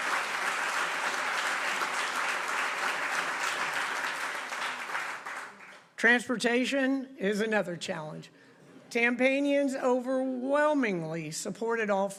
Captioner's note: applause